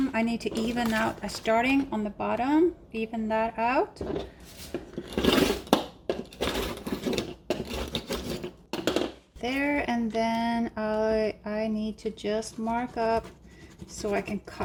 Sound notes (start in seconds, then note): 5.2 blade scraping